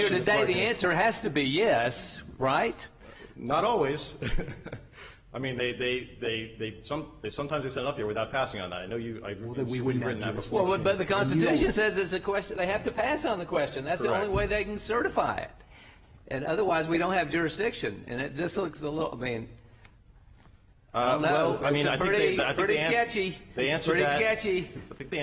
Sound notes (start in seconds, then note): 4.2 laughter